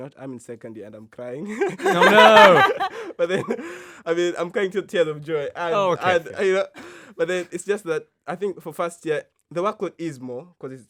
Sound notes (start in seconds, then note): 1.5 all laughing